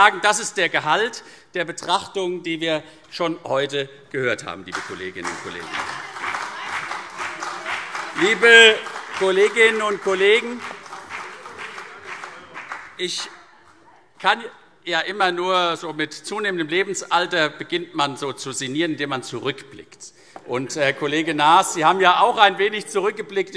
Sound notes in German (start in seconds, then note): 5.1 Beifall CDU und vereinzelt BÜNDNIS 90/DIE GRÜNEN